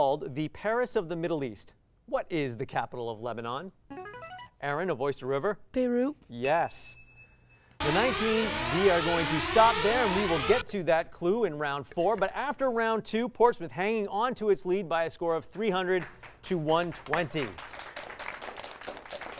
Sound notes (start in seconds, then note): 7.7 alarm sounding; 15.9 applause